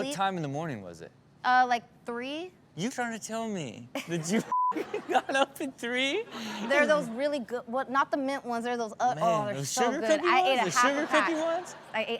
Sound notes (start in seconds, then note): 4.4 beep; 4.7 audience laughs